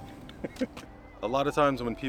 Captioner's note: laughs